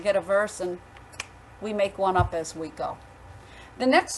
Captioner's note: fingers snapping